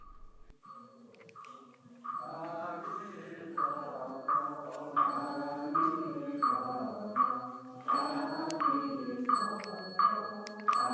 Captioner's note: bell chiming; knocking of wooden fish; people chanting